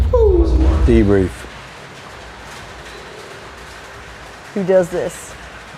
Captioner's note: rain falling